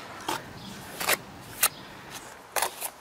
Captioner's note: rough scraping noises